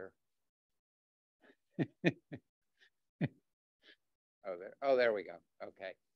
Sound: chuckles

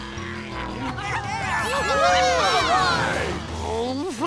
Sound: cheering

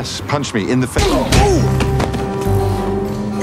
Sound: punch

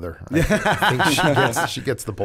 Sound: laughter

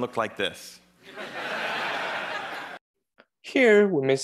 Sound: audience laughing

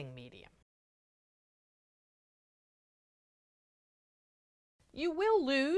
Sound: no Sound Present

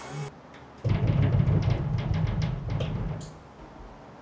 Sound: banging on wall

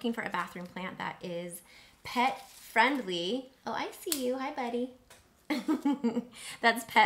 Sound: chuckles

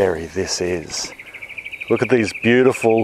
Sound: birds chirping

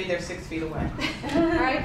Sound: laughter

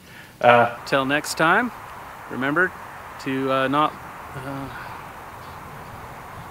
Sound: sigh

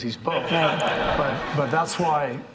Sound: audience laughing

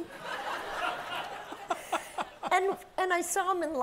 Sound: audience laughs

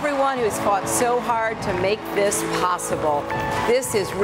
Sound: cheering

